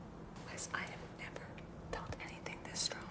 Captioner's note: whispers